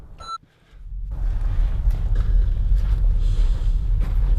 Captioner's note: terminal beeping